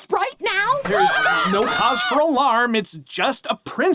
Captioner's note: screaming